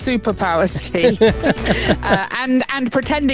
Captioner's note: laughs